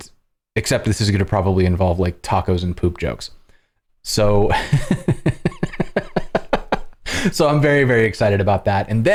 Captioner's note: laughter